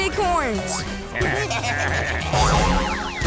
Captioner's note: baaing